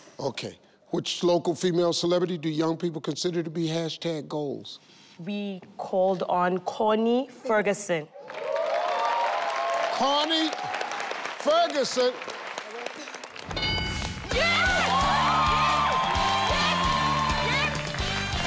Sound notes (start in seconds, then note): 8.2 audience cheers; 13.0 screen dings; 15.3 theme music plays